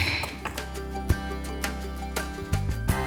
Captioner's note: object banging; gentle music